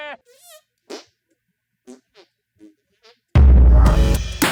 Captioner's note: hand fart; fart; outro Theme Music